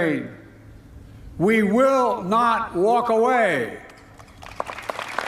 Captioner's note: applause